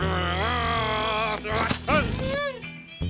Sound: growling

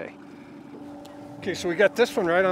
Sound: boat engine idling

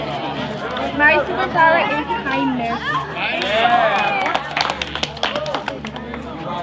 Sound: group applauding

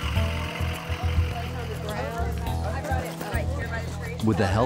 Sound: people chatter

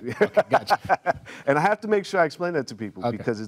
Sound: laughs

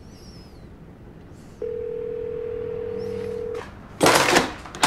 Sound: phone ringing

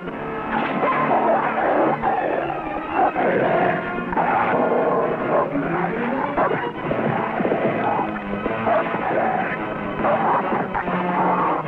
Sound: dog barking; dog growling

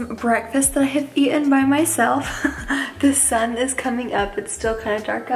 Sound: laughs

